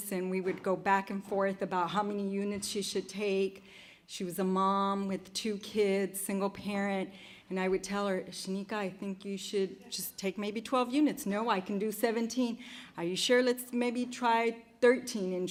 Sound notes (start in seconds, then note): none